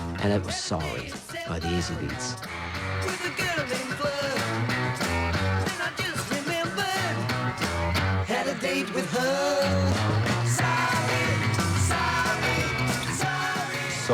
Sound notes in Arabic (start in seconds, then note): 8.4 صراخ الفتيات